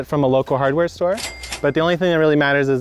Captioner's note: cash register ringing